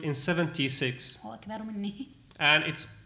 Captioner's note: speaking arabic